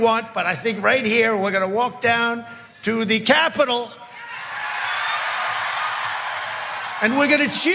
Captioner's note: applause